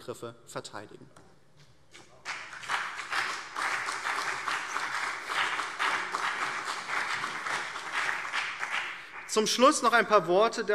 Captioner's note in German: Beifall BÜNDNIS 90/DIE GRÜNEN und CDU